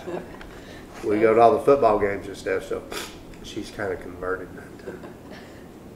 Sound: laughter

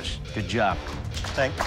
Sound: applause

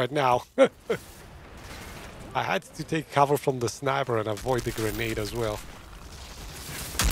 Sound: laughs

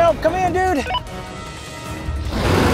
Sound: radio beeps; T-Rex roars

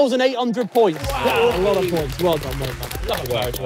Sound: crowd clapping

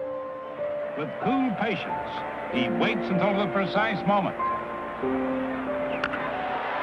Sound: sounds of a baseball announcer and crowd

